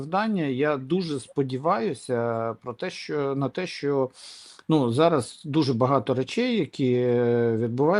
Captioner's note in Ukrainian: сопіння